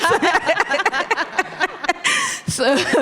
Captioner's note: everyone laughing